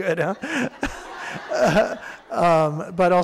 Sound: audience laughing

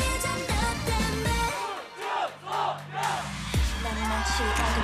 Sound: fanchant

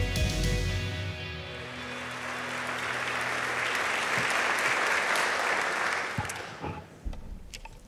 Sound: applause

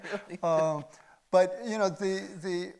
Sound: chuckles

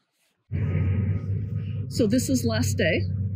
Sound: truck beeping

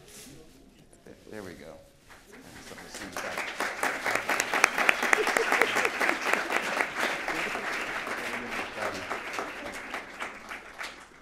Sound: applause

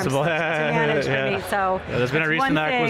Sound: laughs

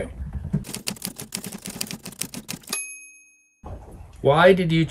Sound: typewriter keys clacking

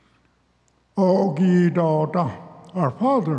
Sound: speaks Cherokee

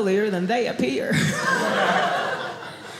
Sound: audience laughing

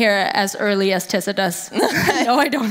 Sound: laughing

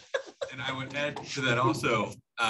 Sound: laughter

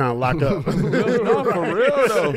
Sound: laughs

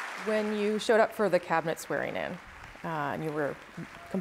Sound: applause

